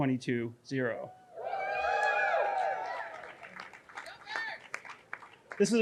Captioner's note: audience cheering